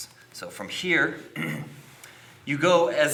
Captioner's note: clears throat